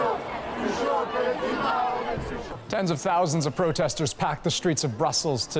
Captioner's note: chanting